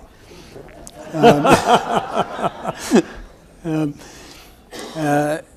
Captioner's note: everyone laughs